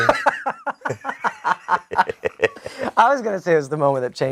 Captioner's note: laughing